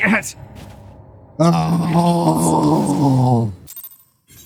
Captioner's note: groans